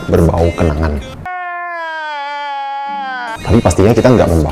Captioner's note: sad boi noises